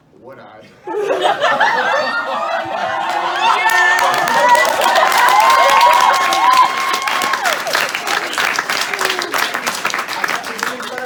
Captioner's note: loud laughter, cheers, and applause